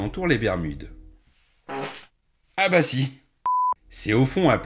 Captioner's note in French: bruit de pet